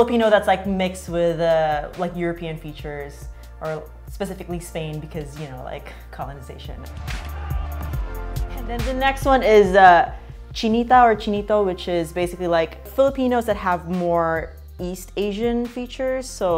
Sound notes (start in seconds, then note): 6.2 techno music; 8.7 voices